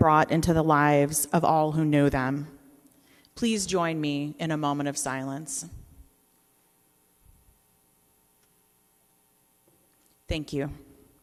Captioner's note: silence